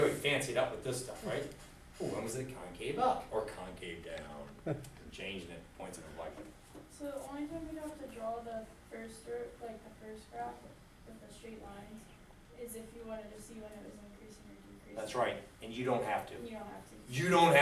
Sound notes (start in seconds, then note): 7.3 voiceover; 16.8 voiceover